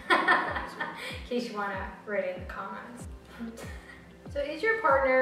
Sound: laugh

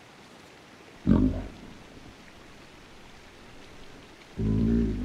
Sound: creature growling

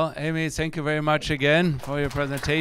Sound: audience applauding

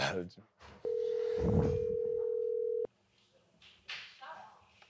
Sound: phone beeps

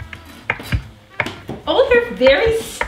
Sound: chopping

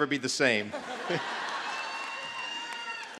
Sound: laughter

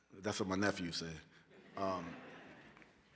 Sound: laughter

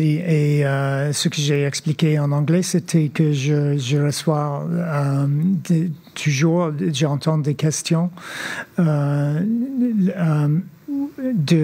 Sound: speaking French

